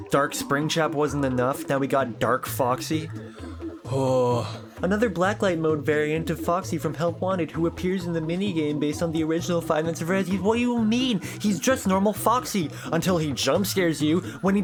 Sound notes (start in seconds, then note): 3.1 groan; 4.8 mockingly